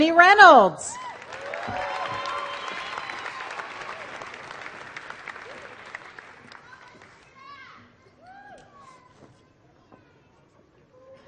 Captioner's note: applause